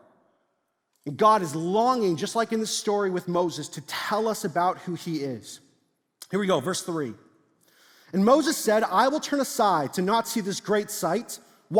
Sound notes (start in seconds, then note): none